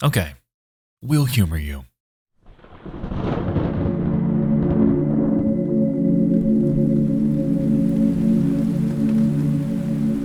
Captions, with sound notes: Okay, we'll humor you. (thunder rumbling) (rain pattering) (eerie music)